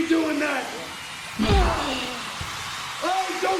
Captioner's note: punching